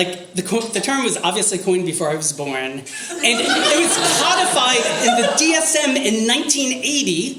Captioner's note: audience laughter